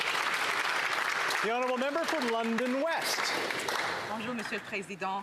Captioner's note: some Applause